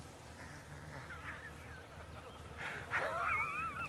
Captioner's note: laughs